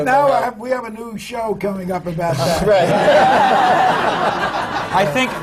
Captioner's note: laughter